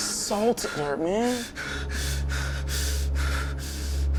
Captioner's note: breathing heavily